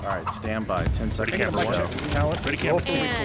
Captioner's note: upbeat music; voiceover; mixed chatter